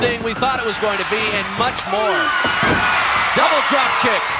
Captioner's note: audience cheering